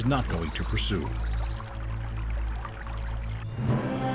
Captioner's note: water falling